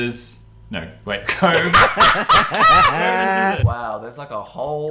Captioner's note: laughter